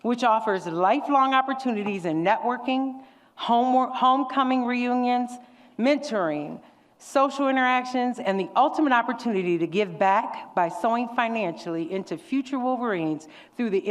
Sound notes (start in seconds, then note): none